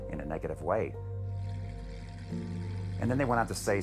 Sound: car engine revving

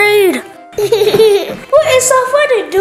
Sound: laughing

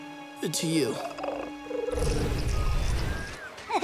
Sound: chittering; laughing

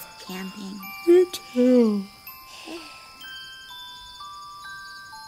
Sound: yawns

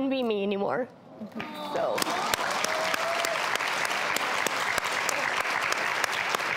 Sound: exclaims; applause

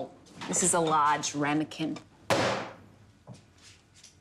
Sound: slam

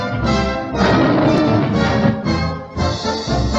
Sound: roar

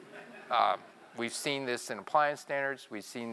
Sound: laugh

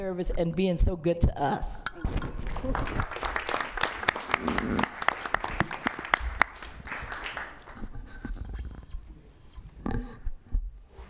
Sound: applause

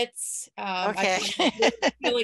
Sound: laughs

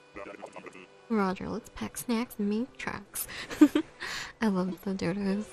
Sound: laugh

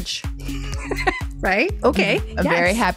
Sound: laughs

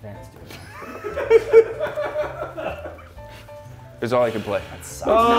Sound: laugh

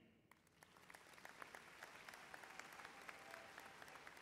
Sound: audience applauds

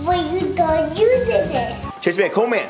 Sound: bubbles excitedly

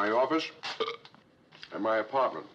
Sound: burps

